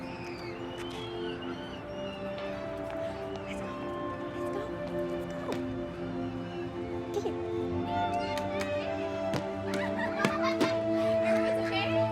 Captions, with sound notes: Let's go. Let's go. Let's go. [children chattering] Everyone's okay?